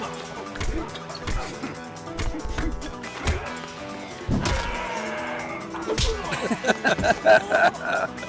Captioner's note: laughing